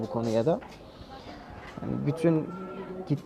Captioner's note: some Crowd Noises